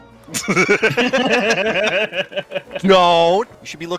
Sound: laughter

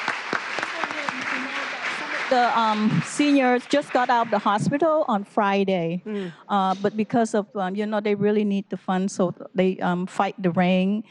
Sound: applause

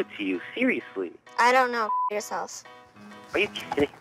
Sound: beeping

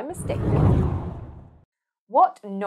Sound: screen whooshing

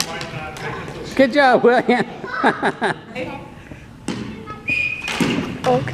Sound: laughs

